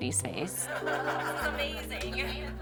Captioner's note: laughing